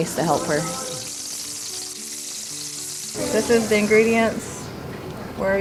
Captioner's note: grease sizzle